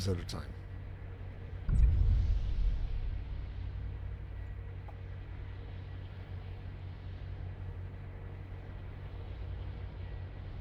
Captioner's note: footsteps